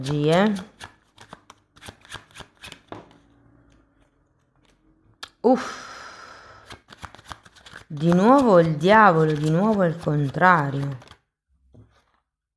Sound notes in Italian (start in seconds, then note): 5.4 sospiri